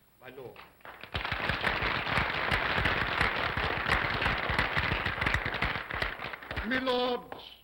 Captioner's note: applause